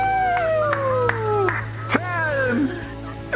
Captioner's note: announcer claps